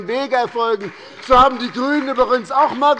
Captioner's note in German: Beifall bei der SPD